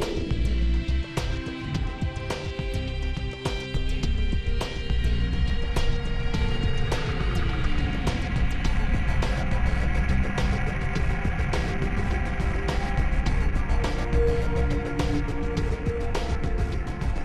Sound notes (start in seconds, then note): 6.9 spaceship Flying SE